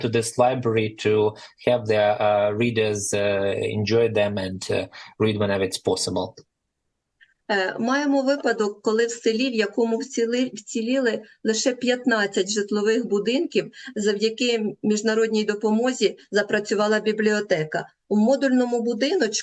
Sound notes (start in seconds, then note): 6.1 foreign language